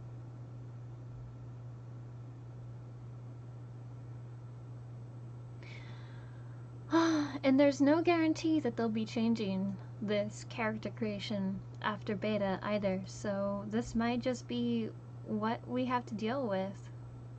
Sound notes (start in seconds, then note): 1.9 sigh